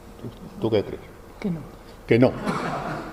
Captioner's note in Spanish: risas